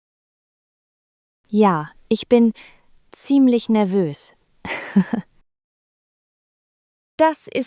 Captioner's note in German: lacht